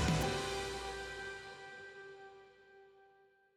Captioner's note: air whooshing